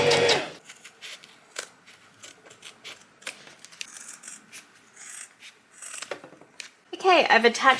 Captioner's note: sewing machine surges; scissors snip